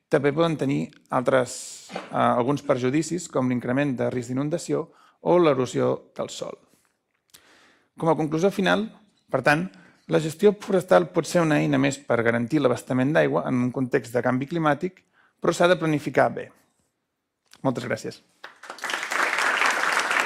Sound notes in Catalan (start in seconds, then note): 18.4 Aplaudiment